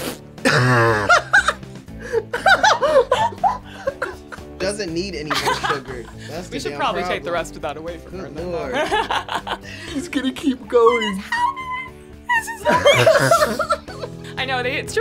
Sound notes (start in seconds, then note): 0.3 laughs; 10.8 laughs; 12.5 laugh